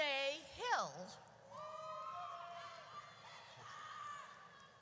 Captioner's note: audience cheers